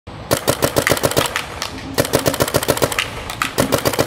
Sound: paintball shooting

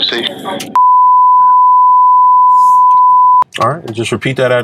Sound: beeping

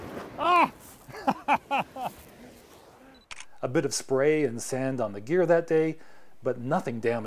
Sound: laughs

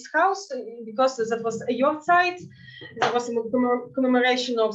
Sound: speaking in Yiddish

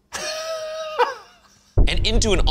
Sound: laughs

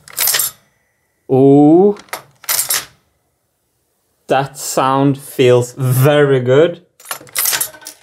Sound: gate clicks

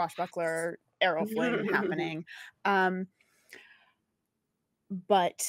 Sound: laughs

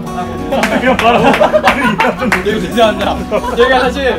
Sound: clap clap clap!

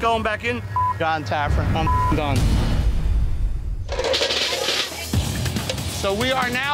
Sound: beep

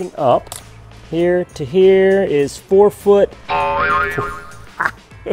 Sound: spring boinging; laughing

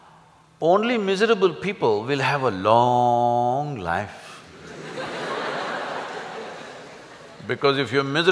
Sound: laughter

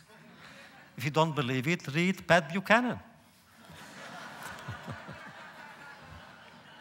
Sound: laughter

